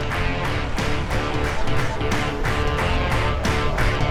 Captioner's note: sound of traffic